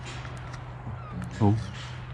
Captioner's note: metal gate clanking